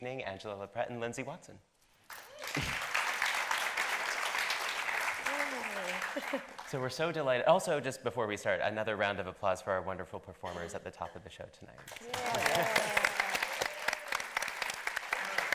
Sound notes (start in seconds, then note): 2.1 audience applauding; 11.8 audience applauding